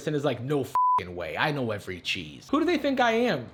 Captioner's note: beep